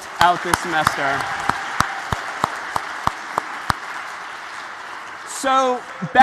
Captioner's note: applause